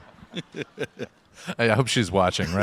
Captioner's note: audience laughs; laughs